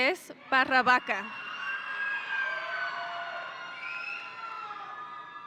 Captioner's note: audience cheering